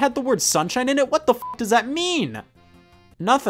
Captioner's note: beep